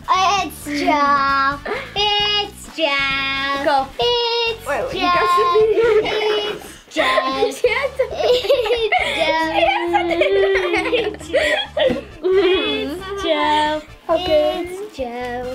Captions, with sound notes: - It's Jo. It's Jo. - Wait, you got some here. (laughs) - It's Jo. - She has some here. (laughs) - It's Jo, it's Jo, it's Jo, it's Jo.